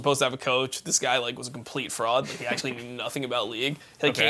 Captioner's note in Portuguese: risos